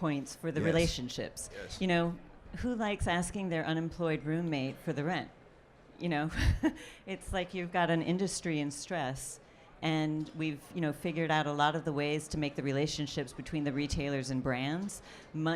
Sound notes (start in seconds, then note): 6.4 laughs